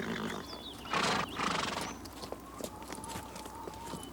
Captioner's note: horse snorts